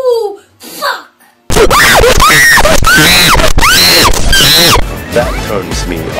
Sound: screaming noise

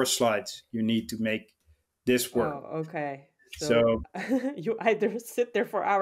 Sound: chuckles

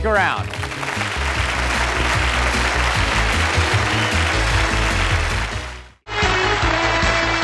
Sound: applause

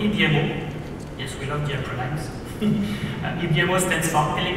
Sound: laughs

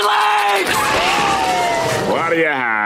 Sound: siren blaring

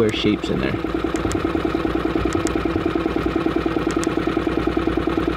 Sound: boat engine humming

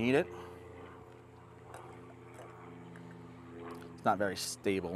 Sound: helicopter engine roars

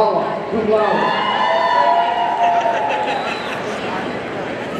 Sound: audience cheering

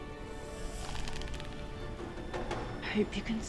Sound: bow creaks

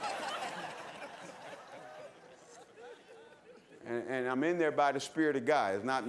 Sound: laughter

